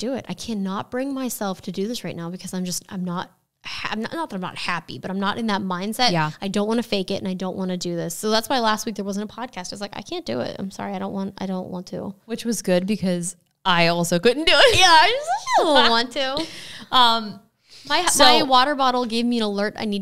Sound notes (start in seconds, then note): 14.7 laughs